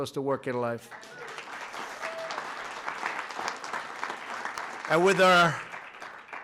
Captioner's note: applause